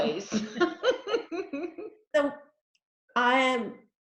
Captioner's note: laughing